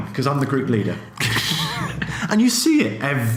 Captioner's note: laughs